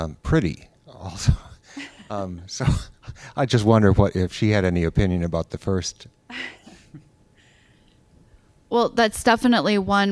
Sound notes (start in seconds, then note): 1.1 chuckles; 6.0 laughter